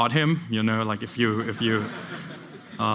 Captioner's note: laughter